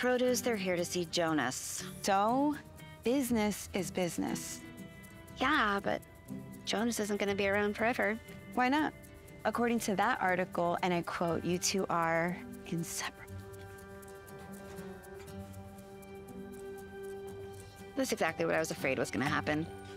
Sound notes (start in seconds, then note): 15.6 scoffs